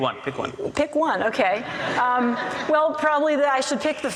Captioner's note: audience laughs